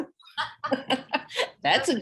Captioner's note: laughing